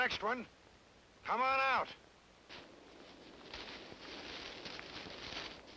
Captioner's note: vegetation rustling